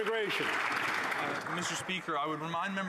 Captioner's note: some Applause